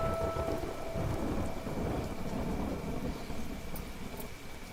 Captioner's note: thunder rumbling